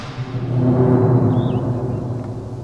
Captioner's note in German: Dröhnen